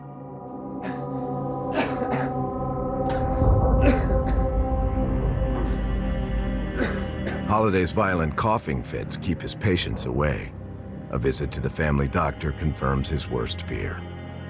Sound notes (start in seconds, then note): 0.2 brooding music; 1.6 Holliday coughs; 6.1 brooding music